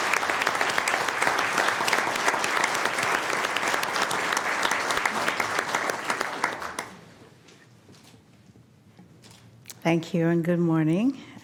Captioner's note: applause